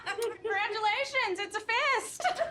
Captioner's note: laughter